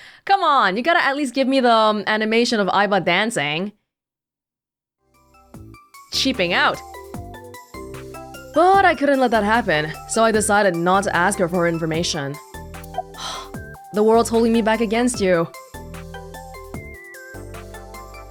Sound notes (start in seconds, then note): 12.8 exhales